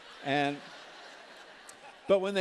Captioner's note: laughter